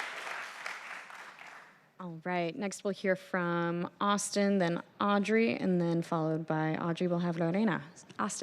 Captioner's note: applause